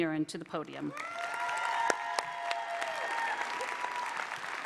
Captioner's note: applause